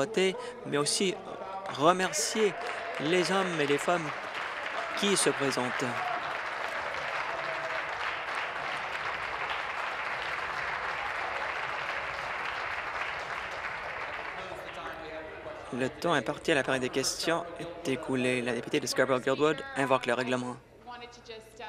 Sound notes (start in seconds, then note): 7.3 applause